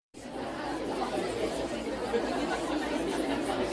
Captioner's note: chatter